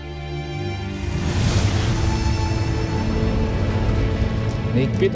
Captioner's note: sparkling whoosh, energy swirling